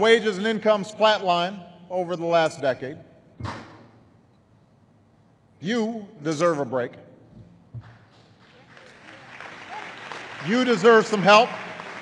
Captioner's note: applause